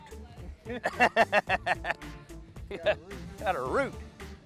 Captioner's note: laughs